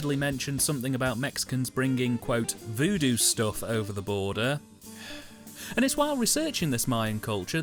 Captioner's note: sigh